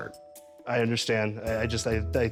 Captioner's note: stammers